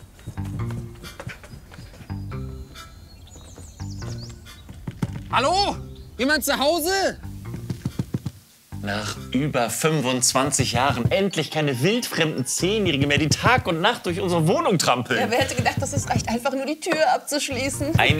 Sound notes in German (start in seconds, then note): 3.0 Vogelgezwitscher